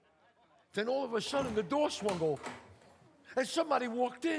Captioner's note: door opens